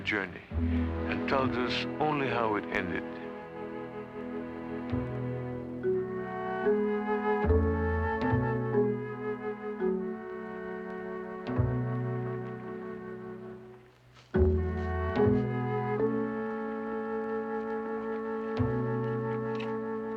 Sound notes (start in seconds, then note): none